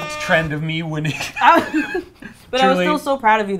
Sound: laugh

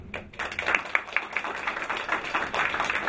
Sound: applause

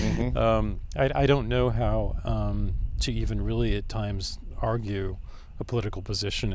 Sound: laughs

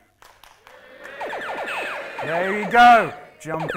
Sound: cheering

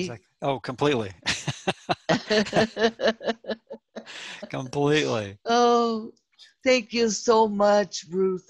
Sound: Risos

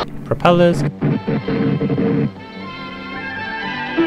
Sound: engine splutters

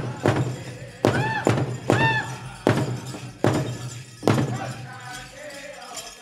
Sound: dancer chanting shouts; regalia ornaments jingling

